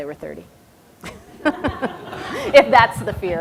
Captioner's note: audience laughter